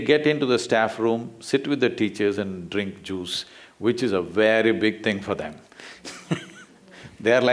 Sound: laughs

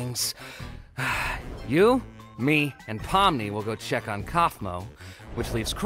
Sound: sighs

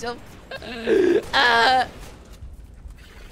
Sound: gasping nerdy crying sound

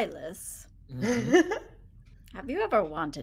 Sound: person laughing

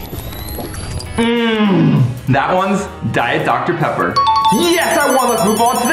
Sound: bell dings

